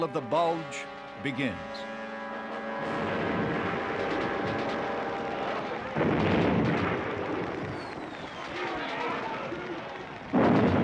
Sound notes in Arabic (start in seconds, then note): 3.9 موسيقى تشويقية; 5.3 إطلاق نار